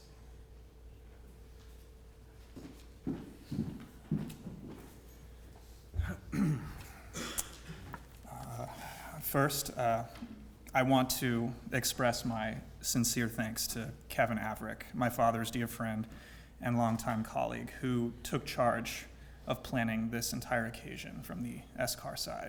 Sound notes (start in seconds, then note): 6.0 cough